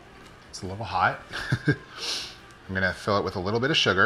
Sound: laughs

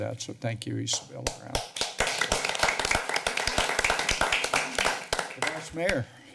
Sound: applause

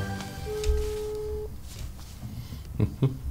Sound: dial tone

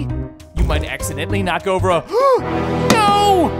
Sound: gasping

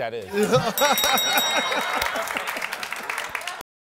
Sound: bell rings

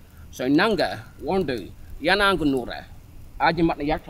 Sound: speaking Uralla

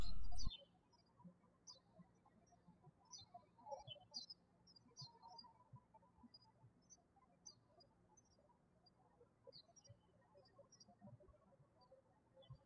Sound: birds chirping

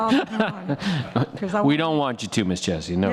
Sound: all laughs

